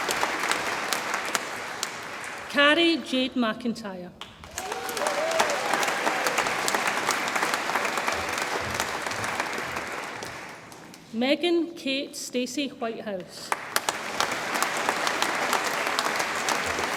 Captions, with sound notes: Cari Jade McIntyre, (audience applauds and cheers) Megan Kate Stacy Whitehouse, (audience applauds)